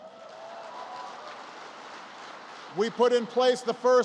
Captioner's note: applause